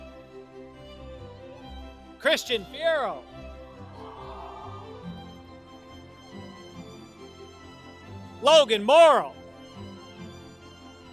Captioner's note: applause